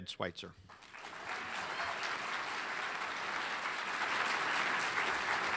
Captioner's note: audience applauds